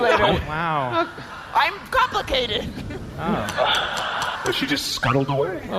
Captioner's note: scuttling noises